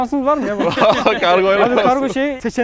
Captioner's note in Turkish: Gülüşmeler